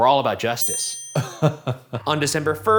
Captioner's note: chuckling